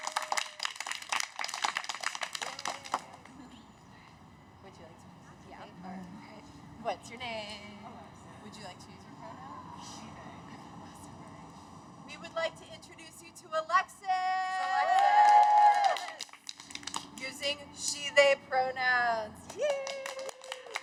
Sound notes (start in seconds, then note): 0.0 cheers; 10.2 cheers